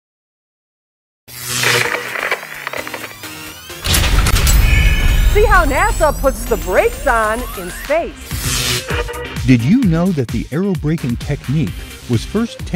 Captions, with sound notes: [ Sound Effects ] See how NASA puts the brakes on in space. [ Sound Effects ] Did you know that the aerobraking technique was first